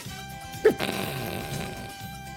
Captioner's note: snickers